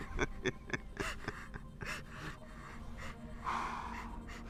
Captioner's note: person laughing